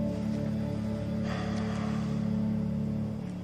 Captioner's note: sighs